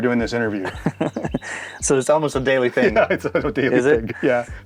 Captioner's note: chuckles